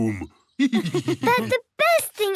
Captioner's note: laughs